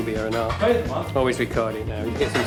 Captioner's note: background chattering